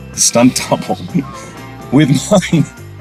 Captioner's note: Hugh laughing